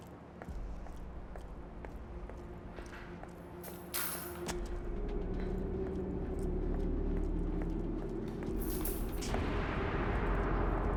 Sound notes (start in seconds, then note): 3.7 chains rattle; 5.3 moves into slow ominous music; 8.6 chains rattle